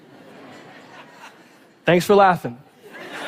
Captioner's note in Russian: Смех